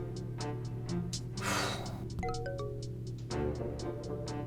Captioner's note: dramatic music plays; phone chimes; exhales sharply